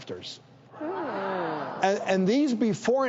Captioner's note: audience gasps